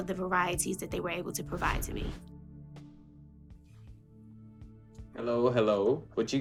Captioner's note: air whooshing